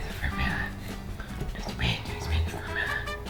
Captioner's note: inhale-whispering; deep voice